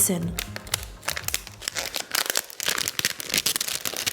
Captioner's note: plastic crinkles